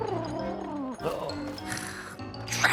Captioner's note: pigeon hiccups; Mrs. Hud scoffs